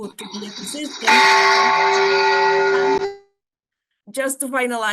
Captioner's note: bell chime